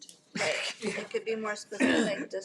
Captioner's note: trustees laughs